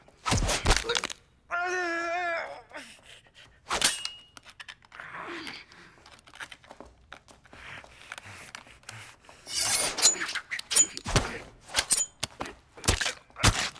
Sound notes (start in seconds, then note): 1.5 man wailing; 3.9 knife scratching